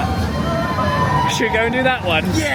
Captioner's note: riders scream